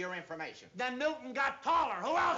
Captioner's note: shouting